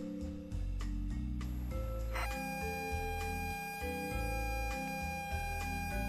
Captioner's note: loading Sounds